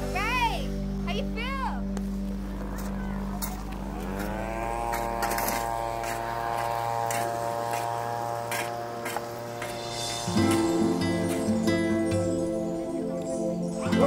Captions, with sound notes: Guys, how do you feel?! (lawn equipment whirring) (soft acoustic guitar music)